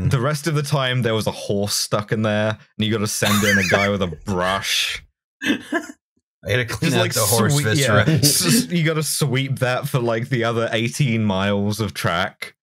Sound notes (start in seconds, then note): 3.2 laughter